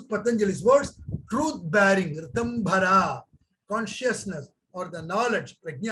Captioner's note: speaks in Hindi